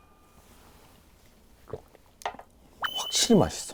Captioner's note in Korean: 꼴깍